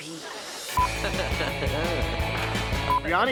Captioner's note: laughter